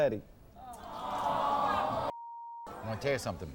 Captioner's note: audience groans; beep